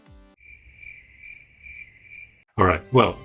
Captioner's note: crickets chirping